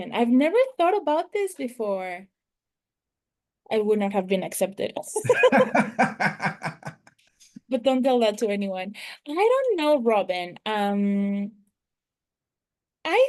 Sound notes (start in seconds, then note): 5.2 laughter